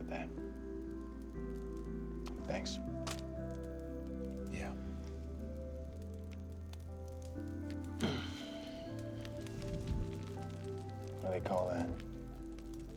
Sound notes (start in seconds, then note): 7.8 sam sighs